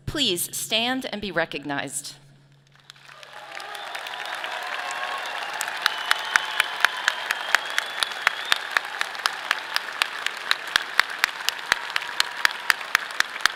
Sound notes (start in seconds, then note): 2.7 audience applauding; 2.8 clapping